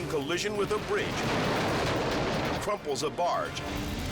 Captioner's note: barge crashing; bridge shattering